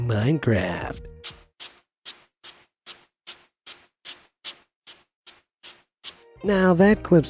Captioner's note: footsteps squelches